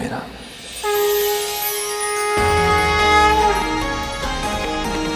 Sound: conch blows

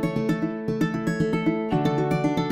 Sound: none

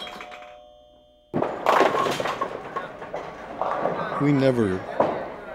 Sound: pinball machine clattering and dinging; bowling pins crash

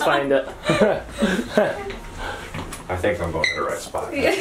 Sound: laughing

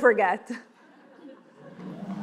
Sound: laughing

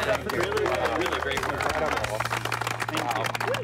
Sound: applauding

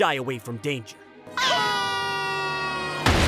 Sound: screaming

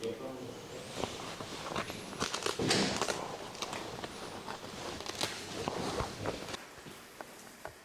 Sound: footsteps

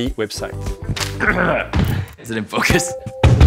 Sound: grunts

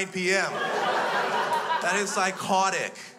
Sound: crowd laughs

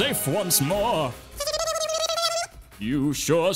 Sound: squeaky gibberish

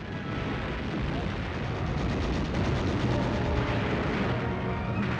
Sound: machine guns firing and bombs exploding

